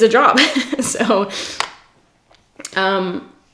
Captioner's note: giggles